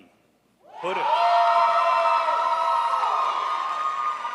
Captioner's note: crowd applauds